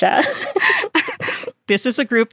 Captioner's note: laughter